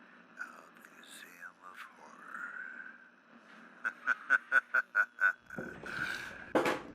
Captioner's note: laughs